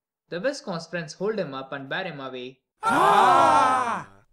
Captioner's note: with one long shout